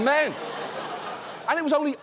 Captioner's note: studio audience laughs